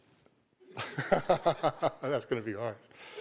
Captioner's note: laughs